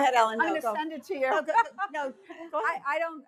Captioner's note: laughs